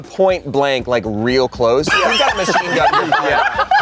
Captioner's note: everyone laughs